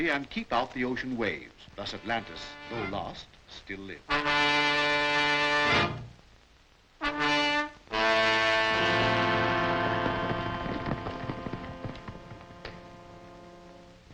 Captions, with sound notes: and keep out the ocean waves. Thus Atlantis, though lost, still lives. (dramatic expectant music) (hooves clopping)